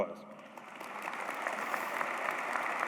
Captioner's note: applause